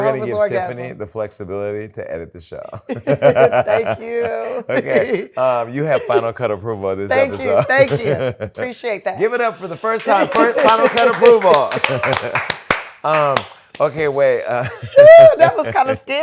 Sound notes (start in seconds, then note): 2.7 laughter; 11.9 applause